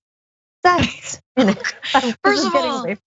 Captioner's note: laugh